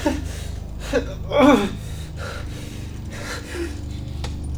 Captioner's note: groaning